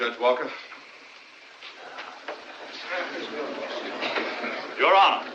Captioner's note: crowd Murmuring